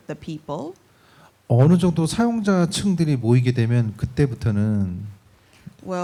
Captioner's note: speaking korean